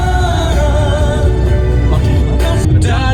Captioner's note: traffic starts building up